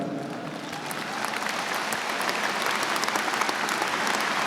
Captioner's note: audience applauds